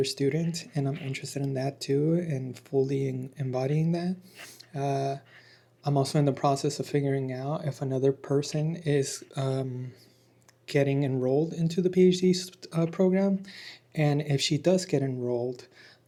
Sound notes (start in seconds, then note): 4.2 snorts